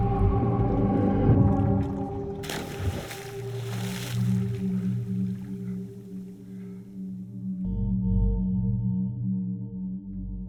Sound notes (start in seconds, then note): 2.3 water splashes; 2.6 music calms; 7.8 pensive music